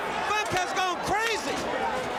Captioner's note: crowd chatter